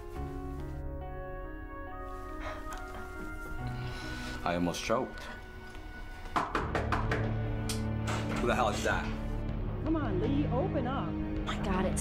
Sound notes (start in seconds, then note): 6.3 knocking on door; 6.6 suspenseful music